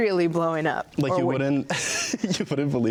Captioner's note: laughs